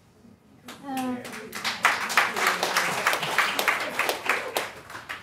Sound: audience clapping

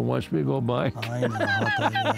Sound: laughter

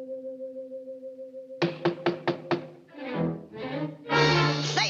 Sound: knocking

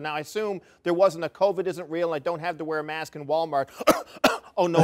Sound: cough cough

